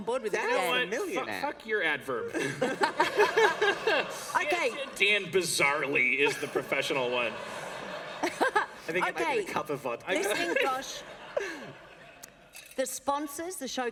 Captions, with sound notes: >> Or 10 or seven. >> I'm not pitching to channel nine [laughter]. >> Are you working with me, Josh? >> Are you kidding? >> Work with this. >> Okay. >> Dan, bizarrely, is the professional one at the table at the moment. Thank you for coming on board with it, Dan.